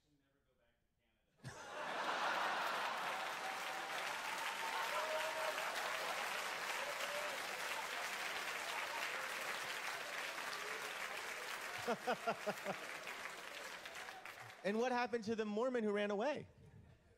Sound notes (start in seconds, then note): 11.0 laugh